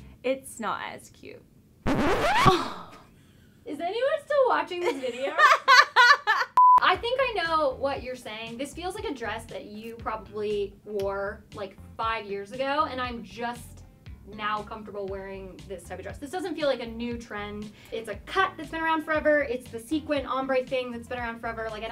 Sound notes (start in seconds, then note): 1.8 disc scratching; 2.4 scoffs